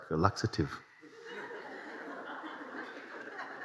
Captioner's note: laughter